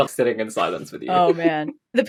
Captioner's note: laughs